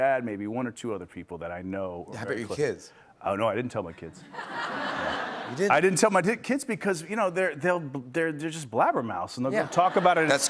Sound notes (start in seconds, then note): 4.2 laughter